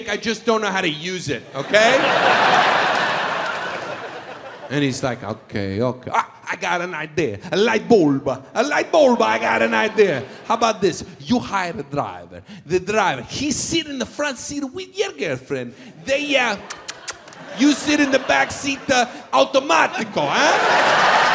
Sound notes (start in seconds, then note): 1.5 audience laughs; 16.6 smacks lips